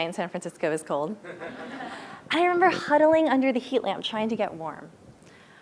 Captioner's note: laugh